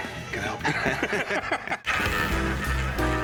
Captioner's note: laughter